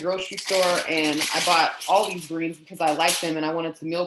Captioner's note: foil squeaking